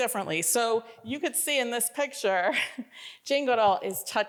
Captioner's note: chuckles